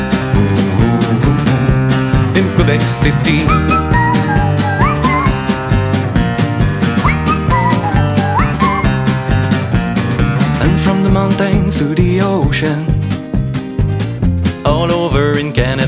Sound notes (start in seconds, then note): 3.9 whistle